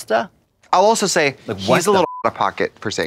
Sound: beep

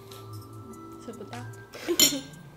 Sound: hehehe

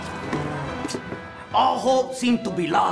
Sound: thud; sucks teeth

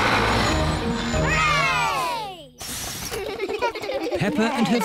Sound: all cheer

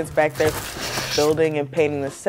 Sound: sound of scraping cardboard

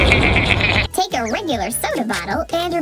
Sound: laughs; funny voice

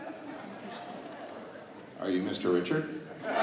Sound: audience laughing

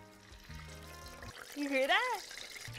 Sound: oil sizzling

